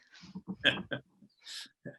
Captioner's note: chuckles